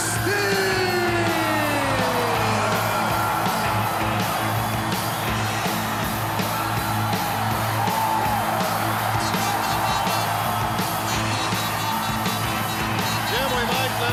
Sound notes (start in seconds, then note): 2.4 crowd cheering